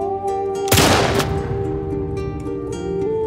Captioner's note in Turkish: Silah sesi